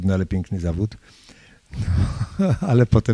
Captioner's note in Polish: śmiech